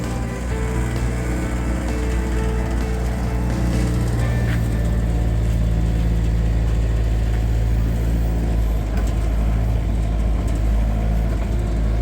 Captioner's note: machine Sound